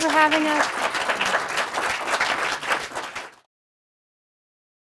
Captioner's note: loud applause